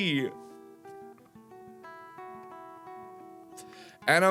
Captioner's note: trying his best not to cry